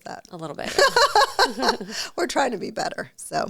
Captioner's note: laughs